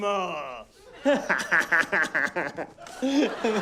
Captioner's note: guffaws; laughter